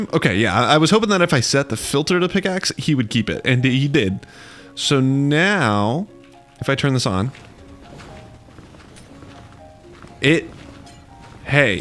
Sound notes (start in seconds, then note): 10.1 crashing